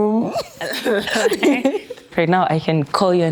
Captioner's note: laughing